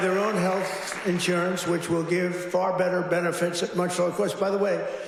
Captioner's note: applause